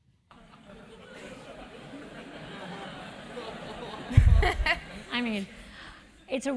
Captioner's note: laugh